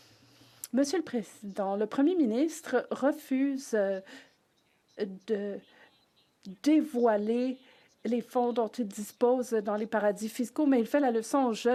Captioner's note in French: voix de l'interprète